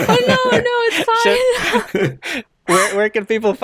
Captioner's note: chuckles